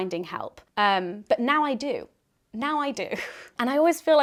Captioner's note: laughs